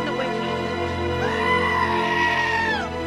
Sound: goat screams

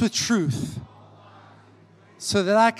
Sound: congregation repeating

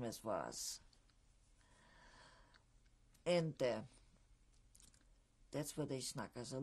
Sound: pauses for 3 seconds

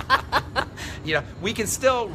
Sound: laughs

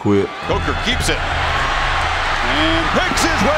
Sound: voiceover

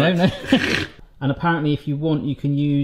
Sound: both laughs

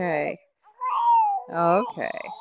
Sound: baby crying

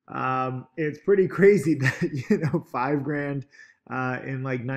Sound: chuckles

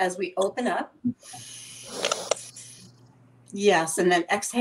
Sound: inhaling

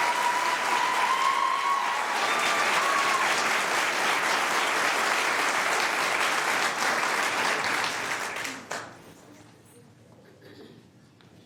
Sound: cheers and applause

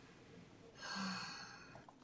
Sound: sighs

